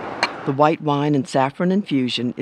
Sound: voiceover

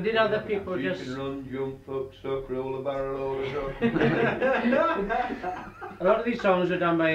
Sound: laughter

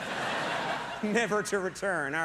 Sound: audience laughs; chuckles

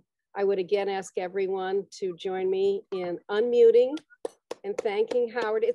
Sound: clapping

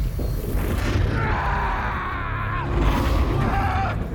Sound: scream

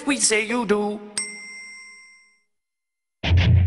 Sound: ding

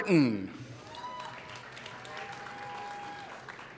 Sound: applause

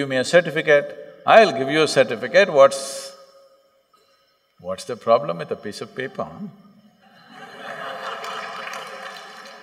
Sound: laughter

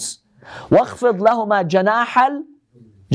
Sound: Arabic

